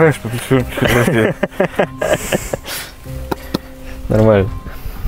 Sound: laughing

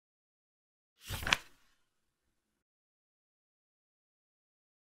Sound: page flip sound

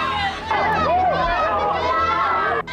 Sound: clamoring continues

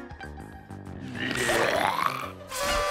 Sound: groaning; screaming

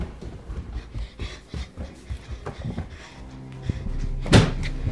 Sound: breathing heavily

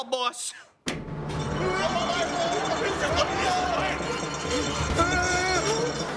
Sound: groaning

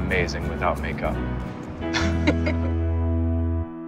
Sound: both chuckle

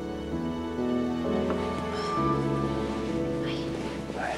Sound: sighs

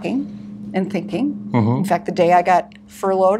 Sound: hums

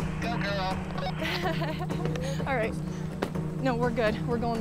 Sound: laughs

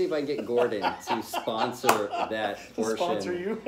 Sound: laughter

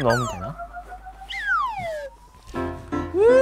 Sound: aww

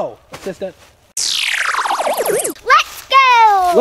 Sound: buzz

